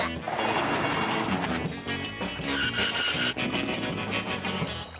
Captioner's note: boy grunts; upbeat music